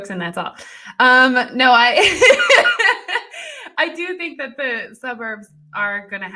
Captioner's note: laughs